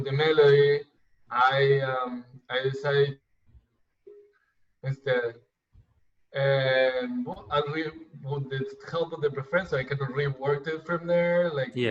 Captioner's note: audio glitch